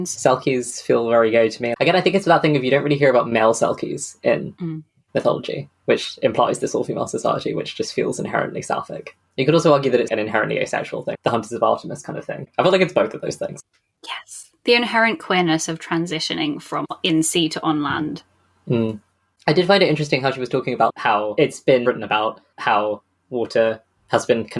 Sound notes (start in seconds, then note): 13.9 whispers